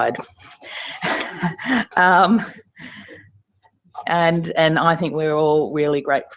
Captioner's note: laugh